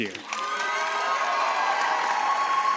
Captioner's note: audience cheers